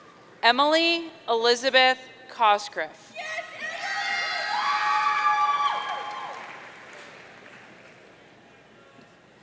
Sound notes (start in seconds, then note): 3.6 audience cheering